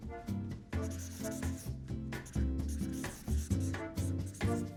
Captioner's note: pen scribbling